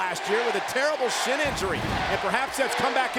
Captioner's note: spectators cheering